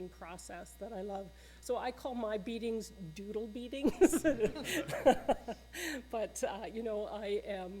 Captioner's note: laughter